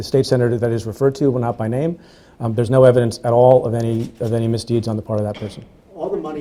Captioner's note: stutters